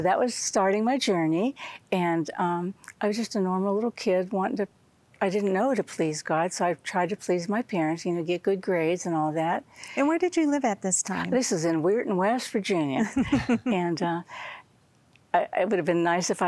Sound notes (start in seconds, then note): 13.0 giggling